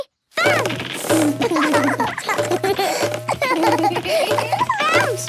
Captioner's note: both laugh